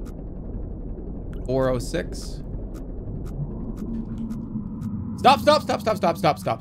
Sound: spooky sound

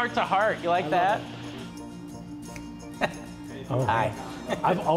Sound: laughing

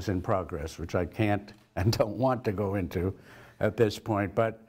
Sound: laugh

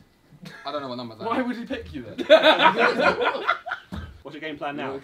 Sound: all laughing

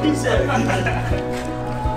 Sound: laughter

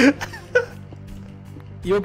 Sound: laughing

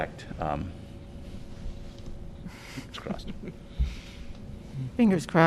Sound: laughter

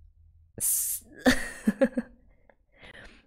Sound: laughs

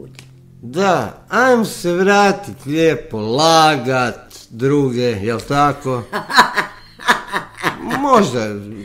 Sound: laughter

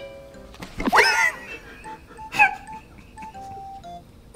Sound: laughs

